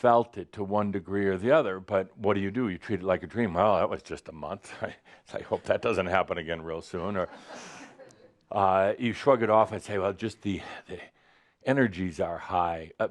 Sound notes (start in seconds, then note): 7.2 some chuckles